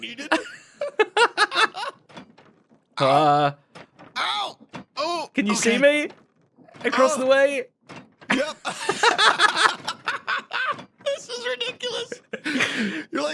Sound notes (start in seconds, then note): 0.0 BOTH laugh; 8.3 BOTH laughs